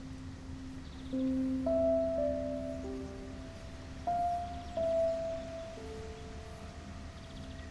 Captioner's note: sentimental music; birds chirping